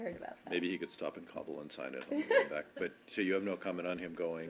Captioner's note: laughter